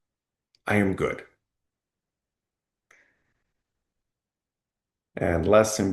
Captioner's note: pause